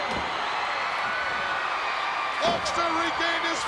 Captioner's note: crowd cheering